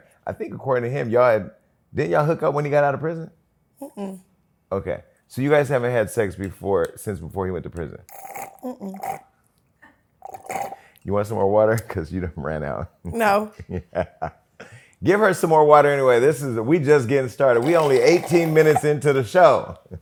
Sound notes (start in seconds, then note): 10.2 slurping straw; 13.1 laughs; 19.4 laughter